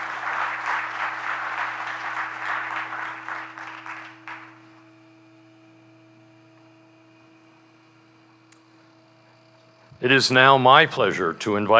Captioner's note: applause